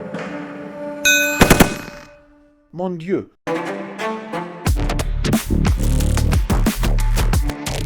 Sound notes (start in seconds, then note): 1.0 bell dings; 2.1 upbeat music